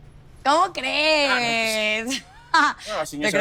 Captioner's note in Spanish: Risas